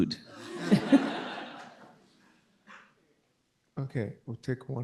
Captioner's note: all laughing